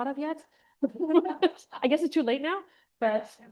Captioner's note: laughs